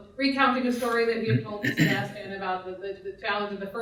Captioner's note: man clearing throat drowns out speaking